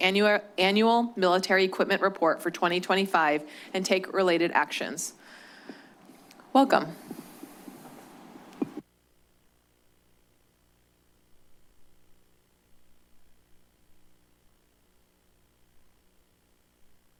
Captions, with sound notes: annual military equipment report for 2025 and take related actions. Welcome. [pause] [silence]